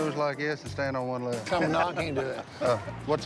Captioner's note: laughs